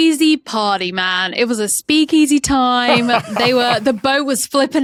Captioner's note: laughs